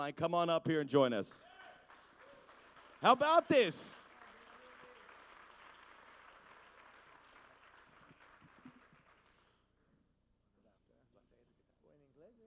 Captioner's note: applause